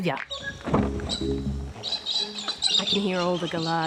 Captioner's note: birds chirp